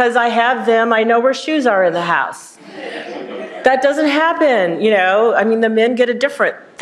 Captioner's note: laughter